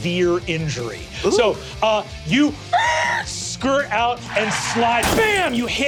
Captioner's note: mimics wheels screeching